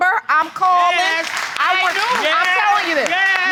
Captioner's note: audience applauding